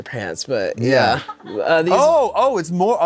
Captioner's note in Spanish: el equipo ríe